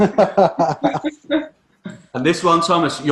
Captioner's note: chuckling